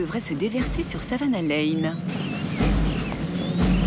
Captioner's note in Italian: cinguettii